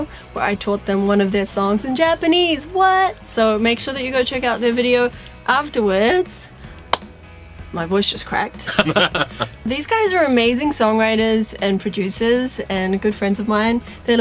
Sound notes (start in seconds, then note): 8.6 laughter